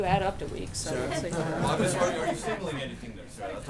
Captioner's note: laughter